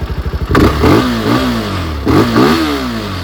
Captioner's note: revs